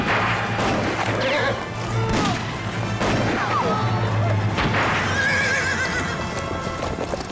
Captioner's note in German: Waffen schießen; Pferde wiehern